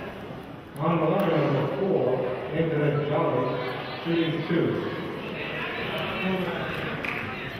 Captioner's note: murmurs